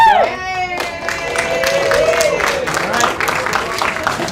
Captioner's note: cheering